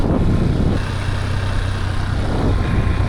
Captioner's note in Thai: เครื่องยนต์คำราม